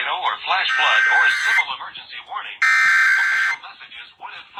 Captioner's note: EAS Header Tone